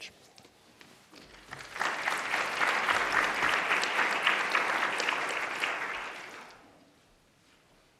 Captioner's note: applause